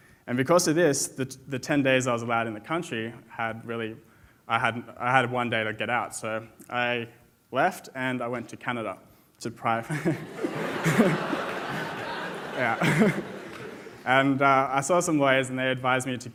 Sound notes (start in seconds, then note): 9.9 laughs; 10.0 audience laughs